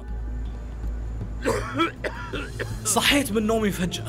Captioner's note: cough in the dark